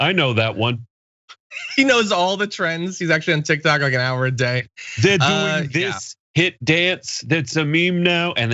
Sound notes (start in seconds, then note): 1.5 laugh